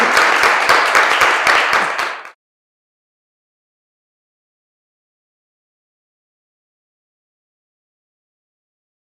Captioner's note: applause